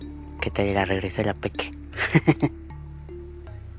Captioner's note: laughs in evil blonde